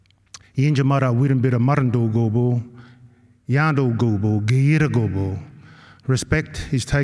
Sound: non-english speech

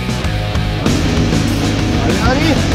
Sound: jet ski engine revving; in Slovenian

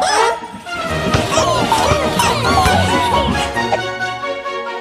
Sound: others cheering; Om Nom screaming

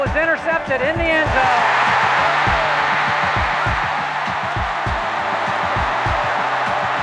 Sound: crowd cheers

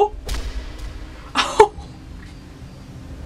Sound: laughs in disbelief

